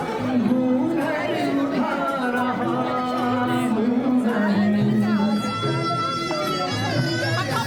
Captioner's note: children chattering